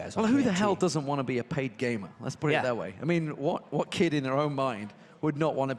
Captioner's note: none